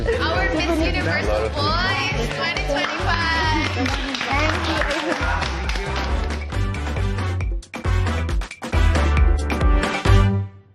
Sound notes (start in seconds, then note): 2.3 applause; 6.4 bright music playing